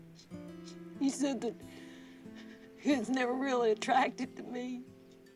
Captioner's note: sobbing